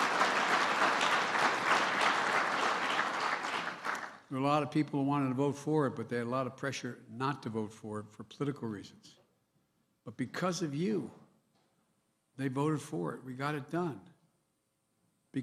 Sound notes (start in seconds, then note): 4.2 cheers and applause